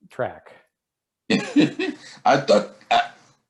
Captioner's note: giggles